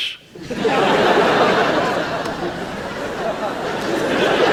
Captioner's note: audience laughs